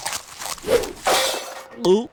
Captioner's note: gulps; sloshing sounds